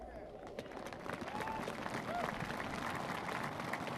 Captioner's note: applause